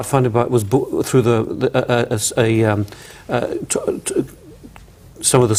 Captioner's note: stammers